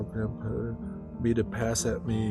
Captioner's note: laughs